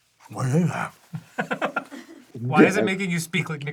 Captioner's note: laughs